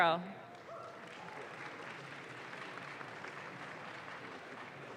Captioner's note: audience claps